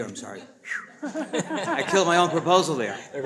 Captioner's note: people laughing